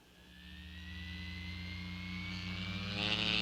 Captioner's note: engine revving